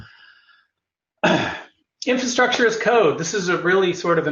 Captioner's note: cough